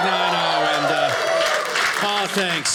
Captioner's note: audience cheers